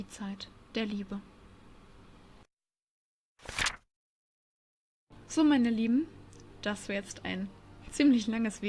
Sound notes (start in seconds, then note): 3.4 page flip